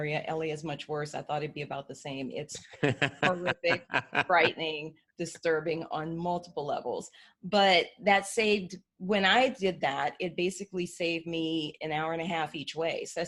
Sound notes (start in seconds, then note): 2.6 laughing